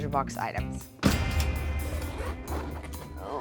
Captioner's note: cash register dings